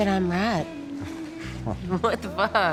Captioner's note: scoffs